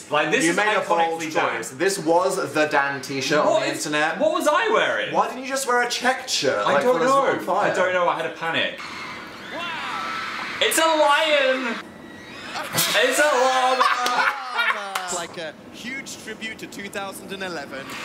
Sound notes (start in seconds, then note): 8.8 crowd cheering; 12.5 Dan laughing